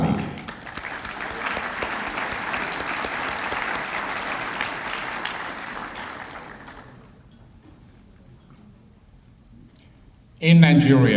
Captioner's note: applause